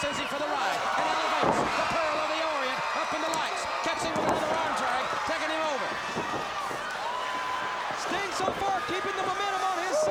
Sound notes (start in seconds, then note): 6.5 crowd cheering